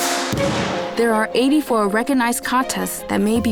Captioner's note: in English